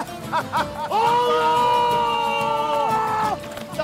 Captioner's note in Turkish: Hep bir ağızdan